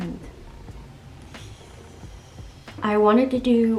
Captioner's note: inhales deeply